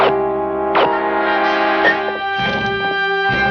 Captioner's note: tense music continues; gun firing; glass clinking